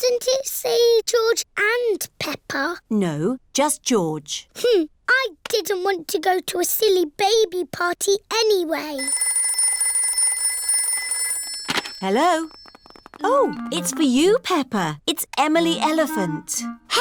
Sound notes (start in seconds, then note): 8.9 phone rings